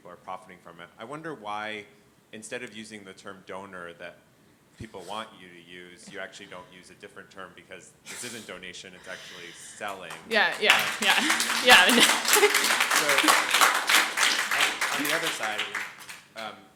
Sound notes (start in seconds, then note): 11.4 audience applauds